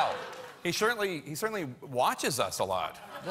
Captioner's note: laughter